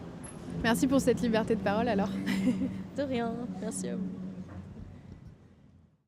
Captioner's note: laughs